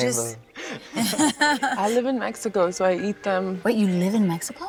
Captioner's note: laughter